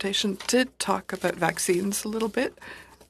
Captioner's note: speaking French